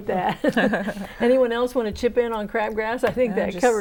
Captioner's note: laughing